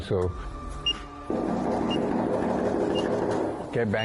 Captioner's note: knocking